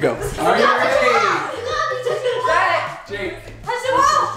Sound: very loud excited voices

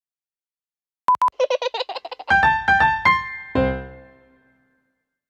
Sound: laughter

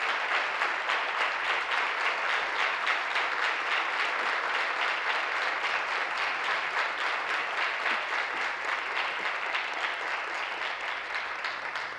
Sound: applause

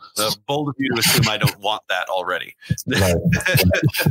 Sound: laughs

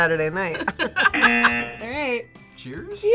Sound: both laugh; buzzer

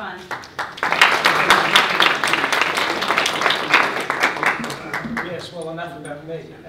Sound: applause

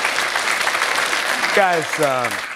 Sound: applause

